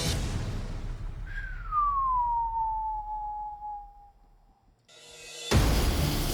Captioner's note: whistling softly